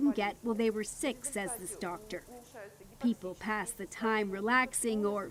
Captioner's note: speaking Foreign Language